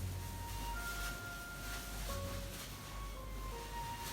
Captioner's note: sleeve rustling